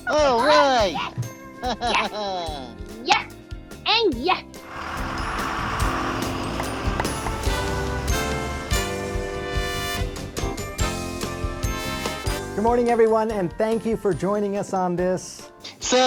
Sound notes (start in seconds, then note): 4.6 engine thrumming